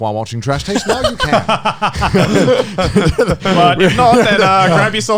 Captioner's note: all laughing